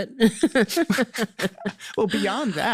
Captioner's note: laughs